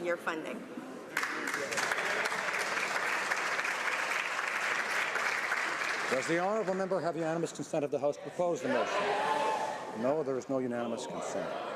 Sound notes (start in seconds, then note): 6.3 some applause